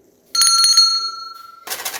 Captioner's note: bell rings